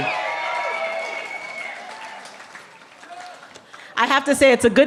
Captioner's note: cheering